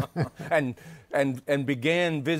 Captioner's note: laughter